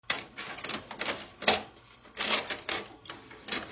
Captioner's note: film reel clicking